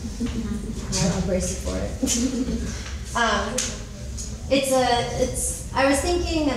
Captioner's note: chuckles